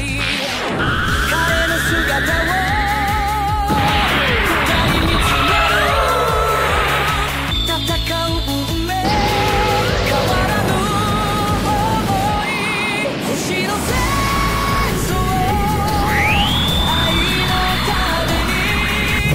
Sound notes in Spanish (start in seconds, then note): 7.9 Efectos de sonido